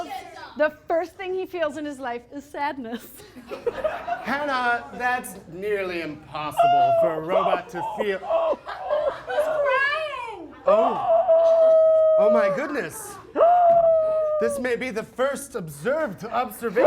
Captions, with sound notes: The first thing he feels in his life is sadness. (laughter) - Hannah, that's nearly impossible for a robot to feel. (crying) He's crying. (crying continues) Oh my goodness. This may be the first observed observation